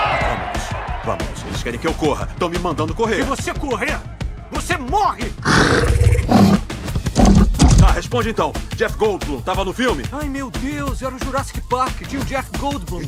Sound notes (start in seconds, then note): 5.4 snorting